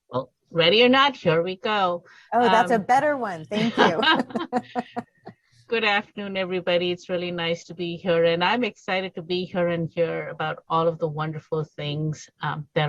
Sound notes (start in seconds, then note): 3.5 both laughing